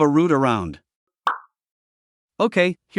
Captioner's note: pop